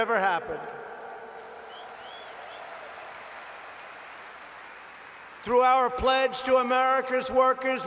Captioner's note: applause